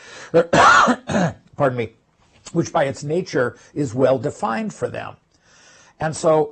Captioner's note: cough